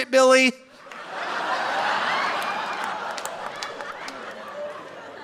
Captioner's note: audience laughing